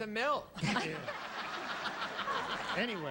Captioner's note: audience laughs